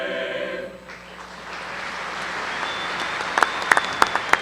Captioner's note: cheering